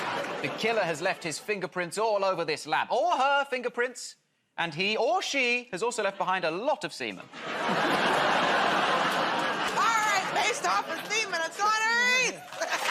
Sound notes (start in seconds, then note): 0.0 audience groans; 7.3 laughter